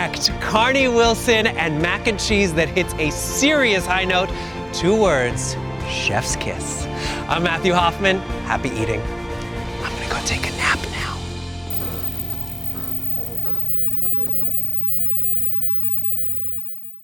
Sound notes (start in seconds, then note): 11.1 whispering; 11.7 logo crackling